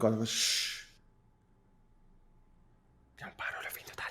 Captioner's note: whispering